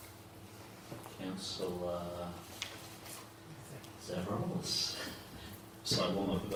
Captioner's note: laughing